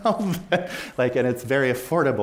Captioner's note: chuckles